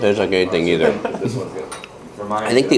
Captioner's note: laughs